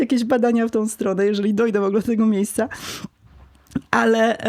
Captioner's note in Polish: parsknięcie